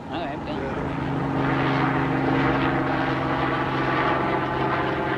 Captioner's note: helicopter sound